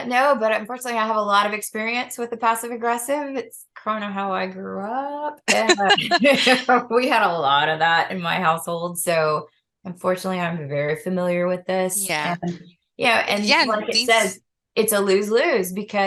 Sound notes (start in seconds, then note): 5.5 laughter